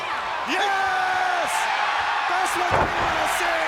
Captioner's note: audience cheers